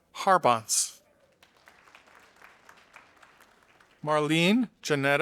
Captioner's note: audience applauding